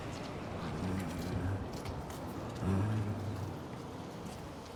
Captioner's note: humming